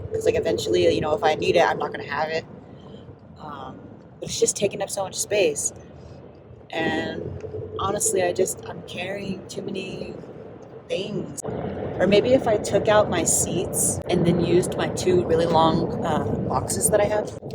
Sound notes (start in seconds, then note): none